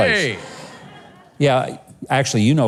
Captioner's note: audience laughing